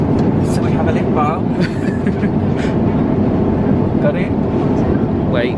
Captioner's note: laughs